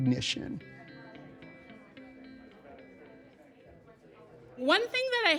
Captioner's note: indistinct chatters